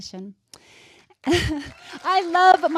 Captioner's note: crowd cheers